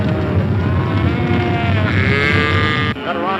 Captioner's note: cows mooing